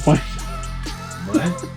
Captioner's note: laughing